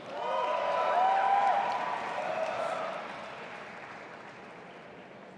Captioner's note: audience applauding and cheering